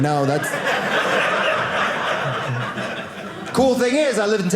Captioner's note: audience laughing